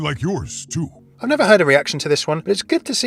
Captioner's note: voiceover